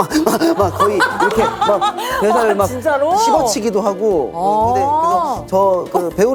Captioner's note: energy-bursting speech style